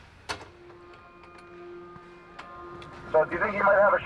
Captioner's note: buzzing